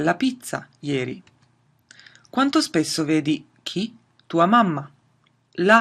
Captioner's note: speaks in a foreign language